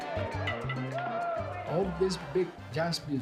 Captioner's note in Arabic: الناس يصرخون